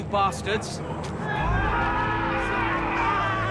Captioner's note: dwarves yelling